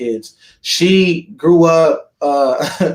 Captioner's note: laughs